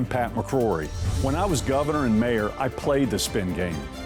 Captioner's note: screen whooshing